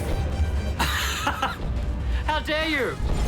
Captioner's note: laughs